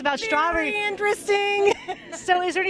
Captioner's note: chuckling